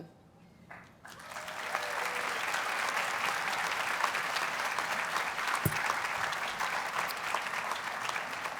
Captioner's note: audience applauds and cheers